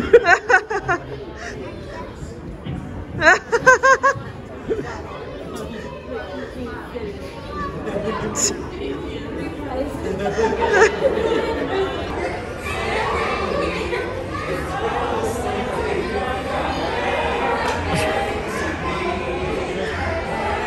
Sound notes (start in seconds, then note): 0.0 laughing; 3.2 laughing; 6.4 crowd chattering; 13.1 crowd chattering an singing